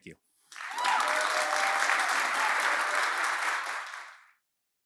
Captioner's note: applause, cheers